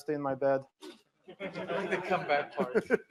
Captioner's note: laughter